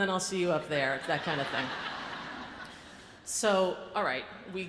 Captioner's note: audience laughs